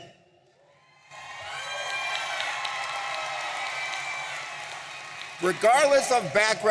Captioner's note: audience cheering and applauding